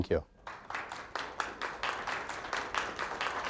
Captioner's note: audience applauds